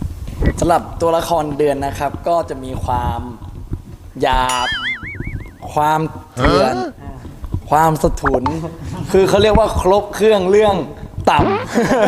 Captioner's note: laugh